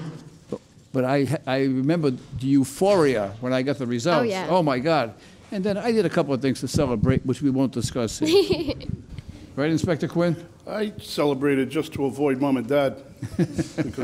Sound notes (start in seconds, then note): 8.2 laughs